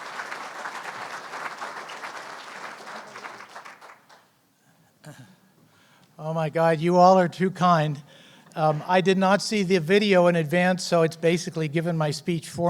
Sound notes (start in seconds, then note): 0.0 applause; 4.8 clears throat